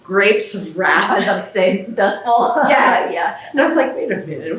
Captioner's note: laughter